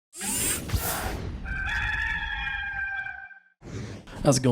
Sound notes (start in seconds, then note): 0.0 machinery whirs; 1.4 rooster crows